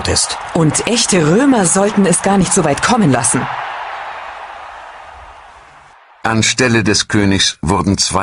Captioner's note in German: jubel